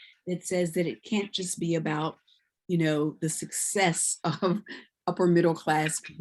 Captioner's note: chuckles